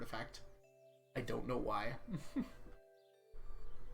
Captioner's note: chuckles